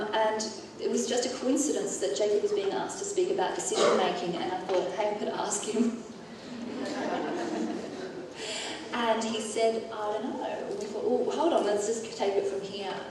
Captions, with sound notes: And it was just a coincidence that Jacob was being asked to speak about decision-making. And I thought, you could ask him. (audience laughing) He said, "I don’t know." Hold on, let's just take it from here.